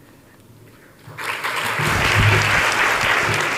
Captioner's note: audience applauding